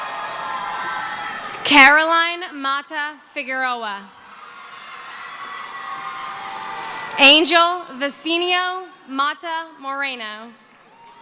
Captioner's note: cheering